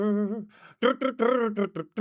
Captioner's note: humming